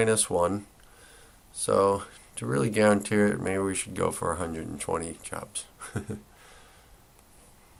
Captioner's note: laugher